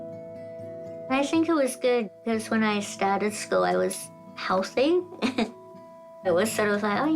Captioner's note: chuckles